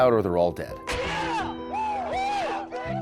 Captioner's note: troops cheer